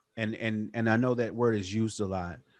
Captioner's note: none